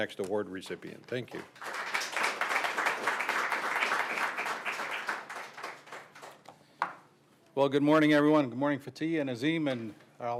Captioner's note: applause